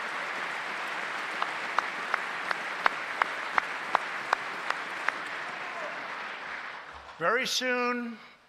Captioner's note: applause